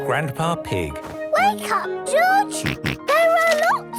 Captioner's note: George snorts